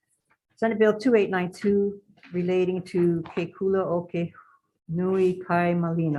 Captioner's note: speaks in a foreign language